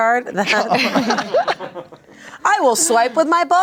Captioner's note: everyone laughs